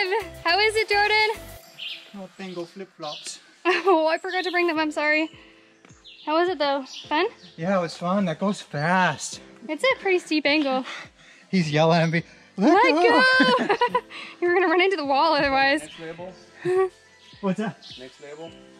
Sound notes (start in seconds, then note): 12.6 laughs